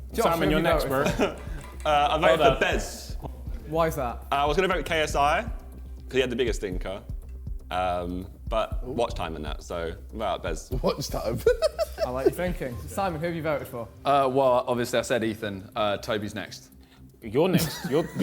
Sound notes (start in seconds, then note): 10.8 laughs; 17.5 JJ laughing